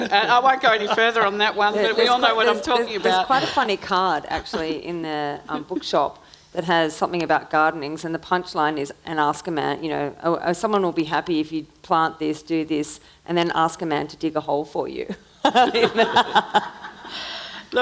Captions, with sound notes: And I won't go any further on that one, but we all know what I'm talking about. - There's quite a funny card actually in the bookshop that has something about gardening and the punchline is and ask a man, you know, "Someone will be happy "if you plant this, do this, "and then ask a man to dig a hole for you." (laughs) (audience laughing)